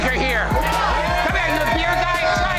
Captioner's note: crowd cheering